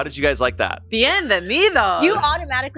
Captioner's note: speaks in foreign language